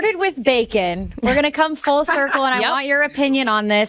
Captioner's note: laughs